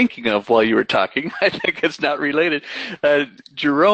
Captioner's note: laughs